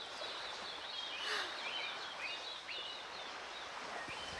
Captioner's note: Rose gasping